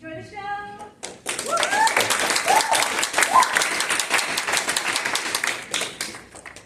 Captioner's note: applause